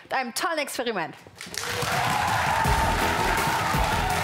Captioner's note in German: Jubel und Applaus